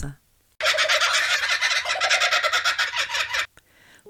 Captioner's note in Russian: звучит смех нескольких кукабарр